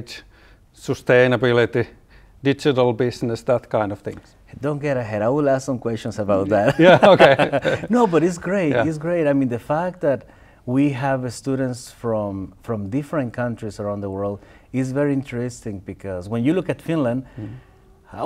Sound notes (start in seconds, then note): 6.6 laughter